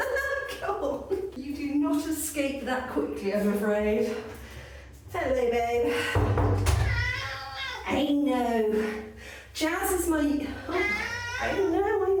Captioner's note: meow